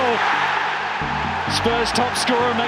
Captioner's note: crowd erupts